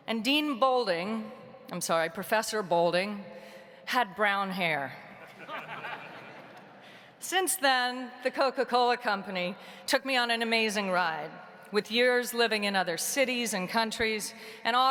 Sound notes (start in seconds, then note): 5.2 audience laughing